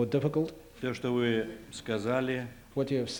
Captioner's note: non-english speech